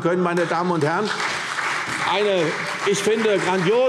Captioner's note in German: Beifall CDU und BÜNDNIS 90/DIE GRÜNEN